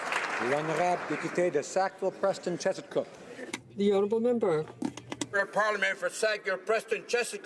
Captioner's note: applause